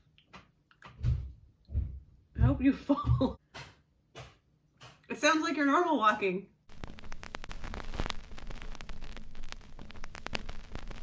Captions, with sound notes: I hope you fall! *Loud Stomping* it sounds like you're normal walking!